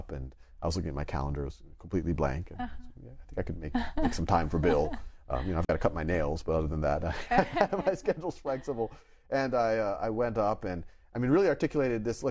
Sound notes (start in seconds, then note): 7.1 laughs